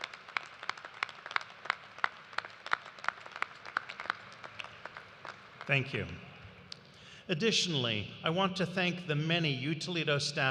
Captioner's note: applause